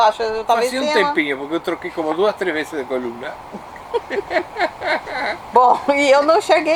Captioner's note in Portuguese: risos